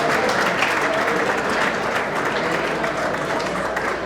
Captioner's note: audience applauds